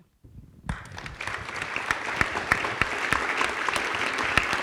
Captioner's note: audience clapping